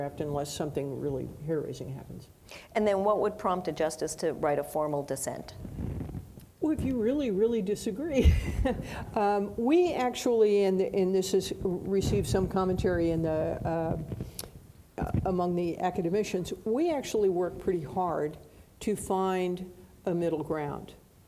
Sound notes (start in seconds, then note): 9.0 laughs